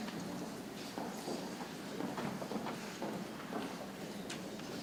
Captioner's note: people chattering softly